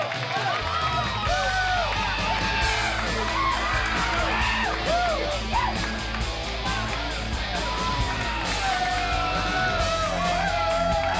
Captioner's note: crowd cheering